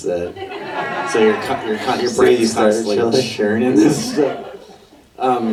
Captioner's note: audience laughter